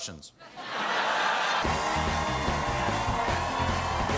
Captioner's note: laughter; applause